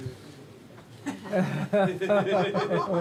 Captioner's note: all chuckling